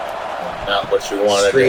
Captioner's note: crowd Noises